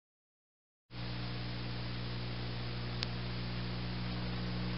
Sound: VHS static

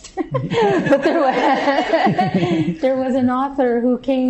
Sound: laughter

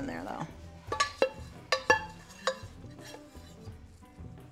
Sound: spoon clanking

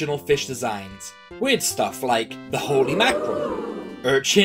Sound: crowd ooing sound effect

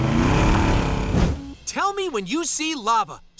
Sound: none

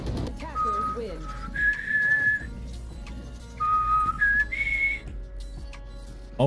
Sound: whistles badly

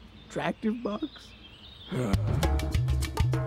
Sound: groans

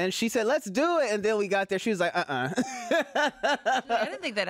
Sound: laughs

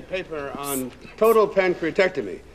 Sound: carter hisses

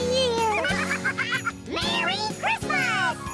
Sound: both giggling

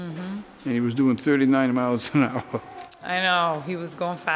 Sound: chuckles

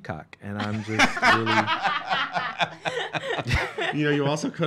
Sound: laughing

